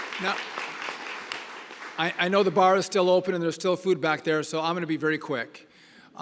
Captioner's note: applause